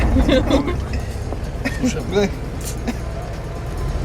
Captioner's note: chattering